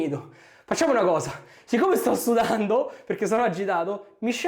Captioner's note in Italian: schiarire la voce